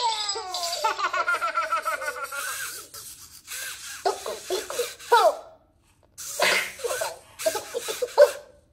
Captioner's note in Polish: śmiech